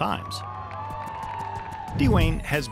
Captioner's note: crowd cheering